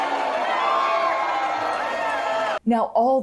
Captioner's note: loud booing